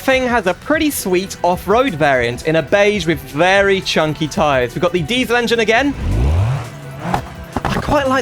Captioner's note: revs engine